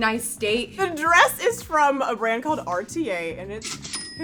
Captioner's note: cash register rings